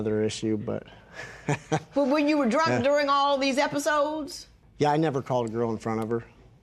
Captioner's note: chuckles